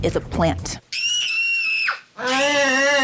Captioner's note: ET and Gertie screaming; Gertie screaming